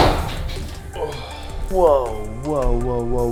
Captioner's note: sighs